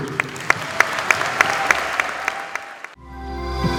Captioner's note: students applauding; upbeat music